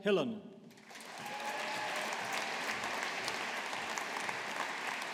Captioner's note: audience applauding